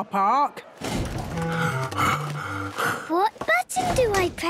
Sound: Daddy Pig panting

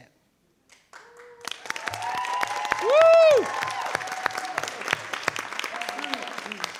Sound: audience applauding

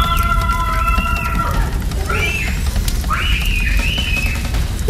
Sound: screaming; lava crackling

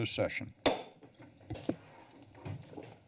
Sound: pounds gavel

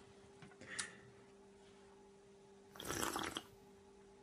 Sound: load slurp sound effect

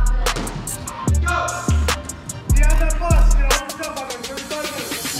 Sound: coach shouting

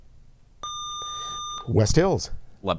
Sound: buzzer

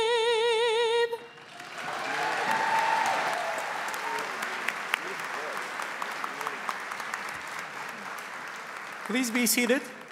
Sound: applause

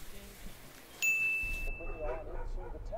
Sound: shower running; ding; dog barking; faint news cast

